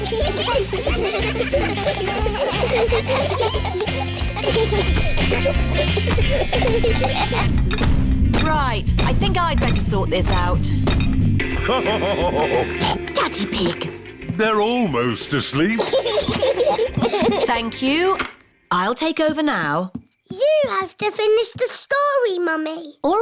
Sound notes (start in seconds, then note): 0.2 giggling; 7.7 feet stamping; 11.5 laughs / honks; 15.6 both laugh